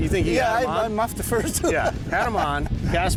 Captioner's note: laughs